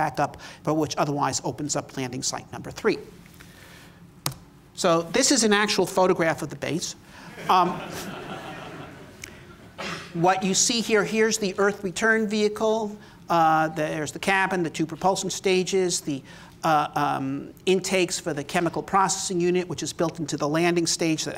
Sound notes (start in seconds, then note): 7.3 laughter